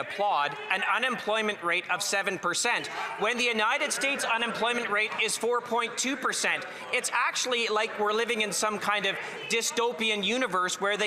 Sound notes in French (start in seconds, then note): 2.0 voix de l'interprète